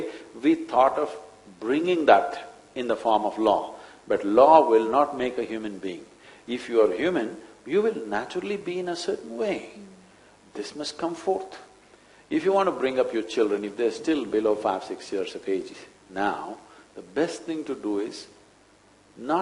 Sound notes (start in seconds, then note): none